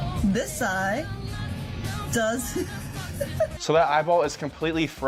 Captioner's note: laughs